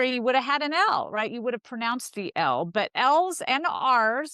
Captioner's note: none